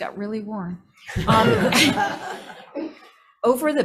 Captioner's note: crowd chuckles